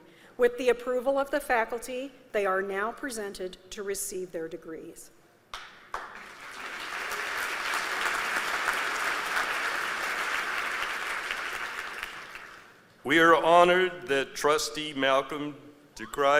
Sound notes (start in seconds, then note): 5.5 applause